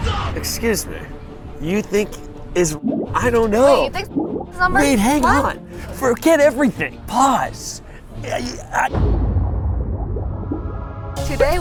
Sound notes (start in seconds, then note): 3.8 bubble plops; 9.4 bubbles plopping